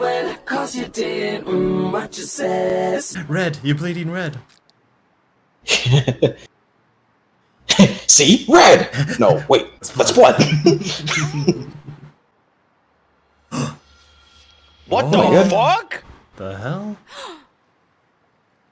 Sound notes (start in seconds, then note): 5.6 chuckles; 10.1 chuckle; 13.5 gasps